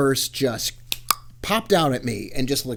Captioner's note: snaps fingers; clicks tongue